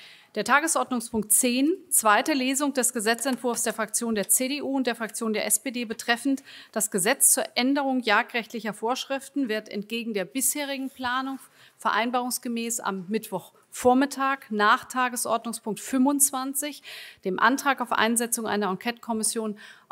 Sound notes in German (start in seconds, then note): none